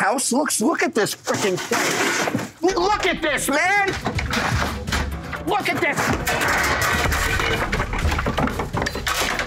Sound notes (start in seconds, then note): 1.9 objects clatter; 4.2 objects rattling